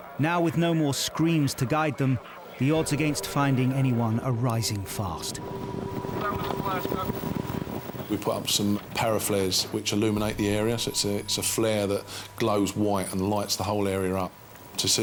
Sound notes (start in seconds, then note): 5.4 coastguard vocalizing; 5.4 helicopter whirls